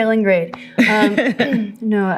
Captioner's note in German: Lachen